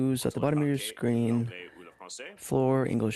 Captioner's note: speaking French